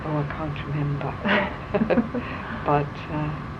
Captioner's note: laughter